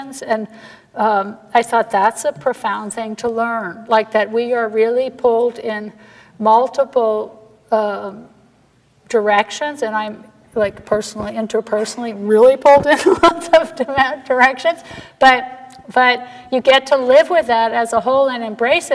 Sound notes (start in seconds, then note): 14.8 laughs